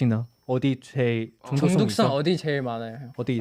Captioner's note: in Korean